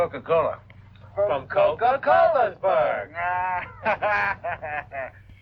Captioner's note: laughing